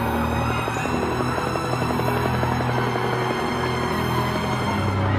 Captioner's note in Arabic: هدير المروحيات